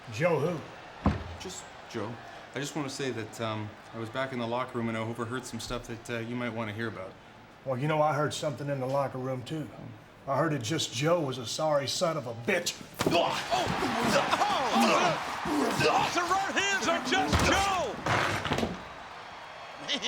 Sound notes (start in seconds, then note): 13.0 fist thuds; 13.5 groans; 16.9 door thuds